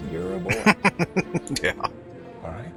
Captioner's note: laughing